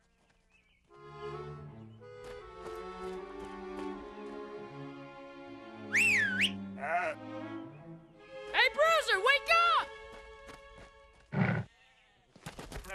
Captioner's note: whistling